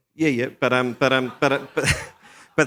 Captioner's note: laughter